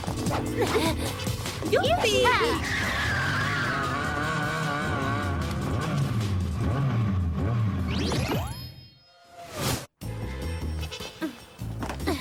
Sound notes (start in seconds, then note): 2.1 tires squealing; 4.7 engines revving